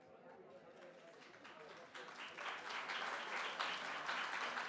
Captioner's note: audience claps